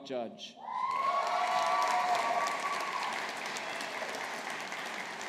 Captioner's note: audience applauding